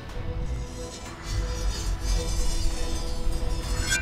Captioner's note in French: râclements de hache